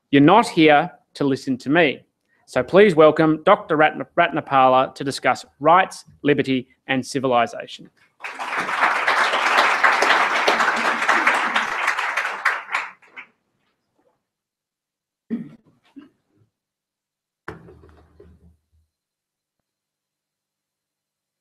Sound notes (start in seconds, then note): 8.2 applause